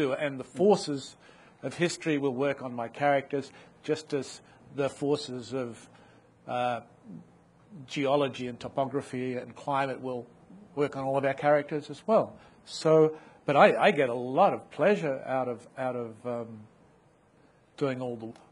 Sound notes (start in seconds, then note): none